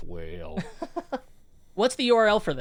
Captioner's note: laughs